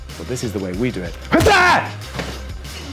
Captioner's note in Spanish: Grito de artes marciales